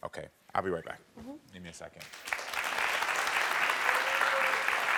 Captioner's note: audience applauds